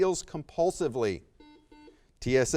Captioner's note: buzzer beeps